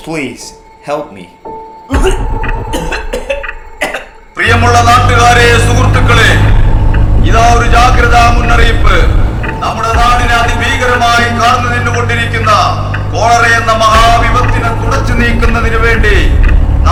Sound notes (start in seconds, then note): 2.6 coughing